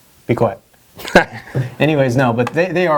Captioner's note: laughing